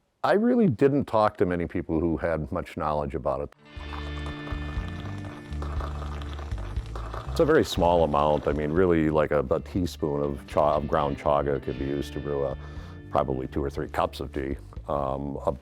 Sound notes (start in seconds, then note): 3.8 water bubbling